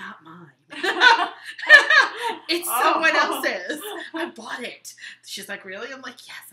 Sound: laughing

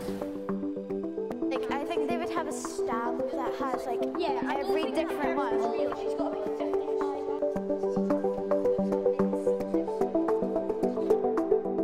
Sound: children chatting

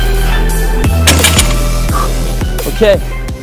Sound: breathes deeply; weight crashes; breathes deeply

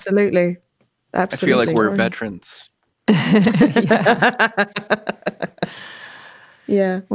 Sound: laughter

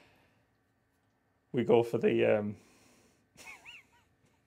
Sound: laughs

